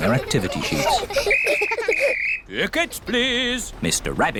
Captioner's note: blows whistle